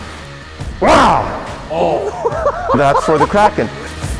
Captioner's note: laughs